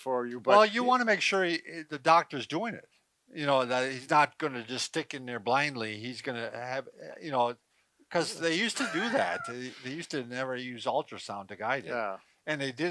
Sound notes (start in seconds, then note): 8.7 laughs